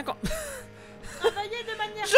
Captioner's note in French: rire essoufflé